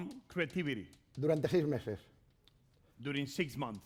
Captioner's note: speaking spanish